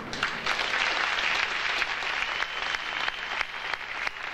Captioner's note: audience applauding